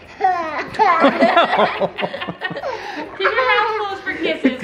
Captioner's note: all laughing